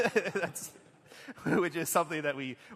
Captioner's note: laughter